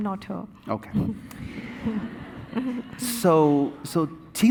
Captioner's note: audience laughing